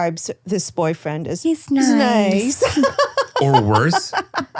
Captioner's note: laughing